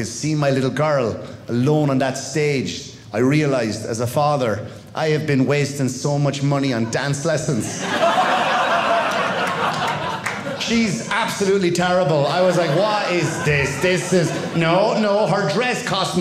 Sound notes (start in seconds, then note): 7.4 audience laughing